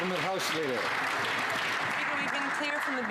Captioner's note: some Applause